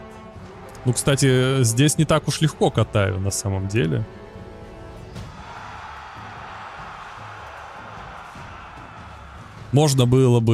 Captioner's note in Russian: ликование